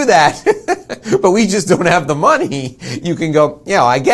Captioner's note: laughs